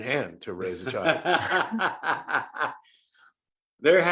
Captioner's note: Johnny laughs